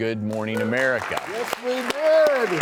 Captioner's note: audience applauds